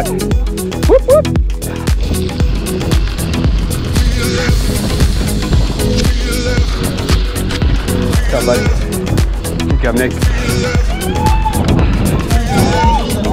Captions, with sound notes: Mud! Whoop, whoop! (workout music) What's up, buddy? (whooping)